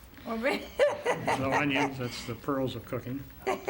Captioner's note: laughter